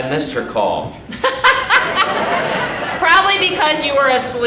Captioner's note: audience laughing